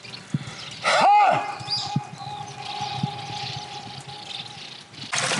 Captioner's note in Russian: мощный крик и многократное эхо